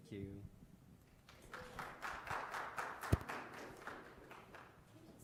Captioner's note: crowd applauds